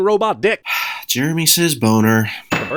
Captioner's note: sigh